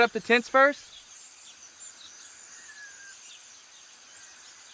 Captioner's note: birds Chirping